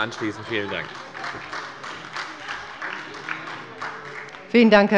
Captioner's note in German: Heiterkeit und Beifall bei der FDP und bei Abgeordneten der SPD